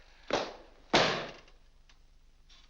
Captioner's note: book slams on desk